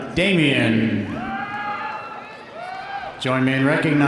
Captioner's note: audience cheering; audience applauding